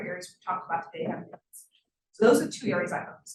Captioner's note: sound distorted